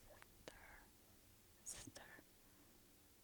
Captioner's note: whisper